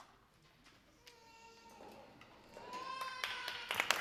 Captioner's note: baby crying; audience applauding